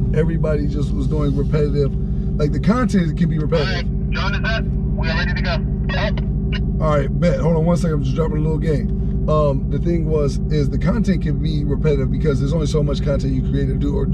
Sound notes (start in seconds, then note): 4.1 man On radio